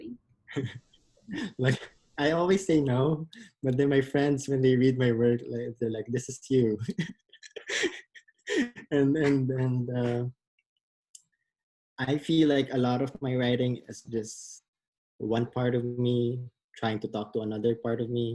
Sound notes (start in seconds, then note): 7.4 laughs